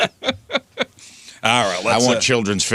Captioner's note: laughing